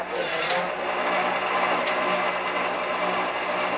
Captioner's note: machine whirring